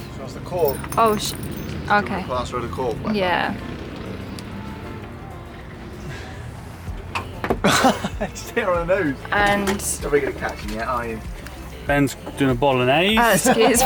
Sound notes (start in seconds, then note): 7.6 laughing; 13.3 laughter